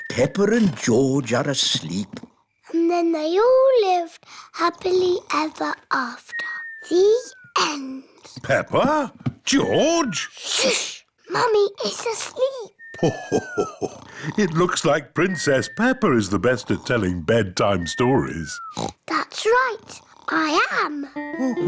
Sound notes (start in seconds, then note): 6.3 snoring; 12.9 laughs; 18.6 oinks